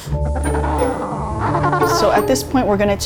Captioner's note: penguin cawing